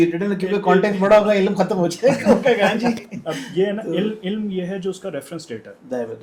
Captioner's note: laughter